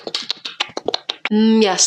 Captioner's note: smacks lips